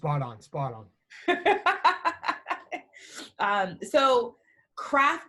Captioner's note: laughing